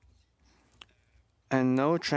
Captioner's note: speaking French